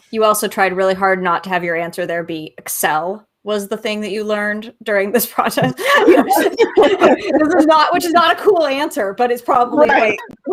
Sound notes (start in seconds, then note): 5.5 laughing